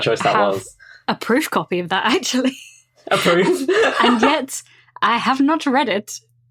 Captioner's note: laughs